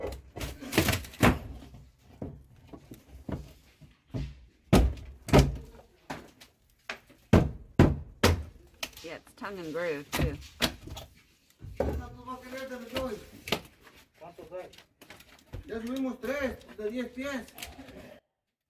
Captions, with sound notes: [Splintering wood] [Hammering] Yeah, it's tongue and groove, too